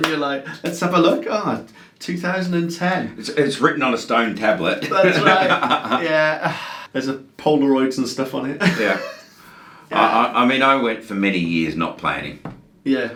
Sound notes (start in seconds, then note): 4.8 laughing